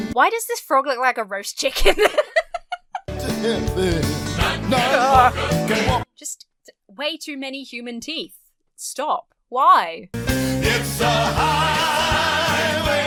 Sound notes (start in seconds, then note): 1.7 laughs; 3.1 shudders; 3.1 singing continues